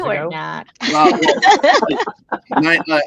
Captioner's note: group laughing